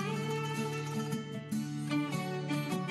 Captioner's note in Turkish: none